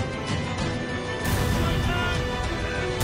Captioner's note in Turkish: Patlama sesi